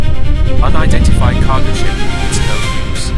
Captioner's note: intense, suspenseful music; a voice over radio